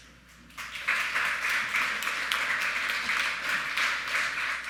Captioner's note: audience clapping